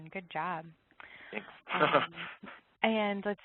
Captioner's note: laughs